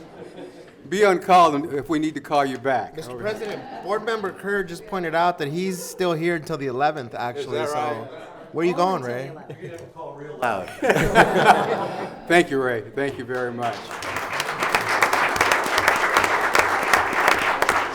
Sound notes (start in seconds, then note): 10.4 laughing; 12.9 clapping